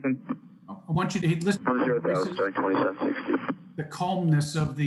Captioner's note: men chattering